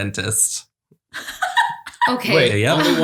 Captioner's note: laughs